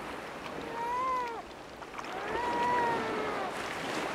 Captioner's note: seal pup crying